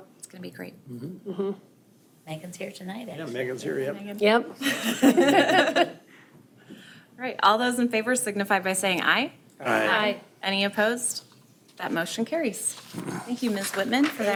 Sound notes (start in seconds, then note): 4.6 group laughing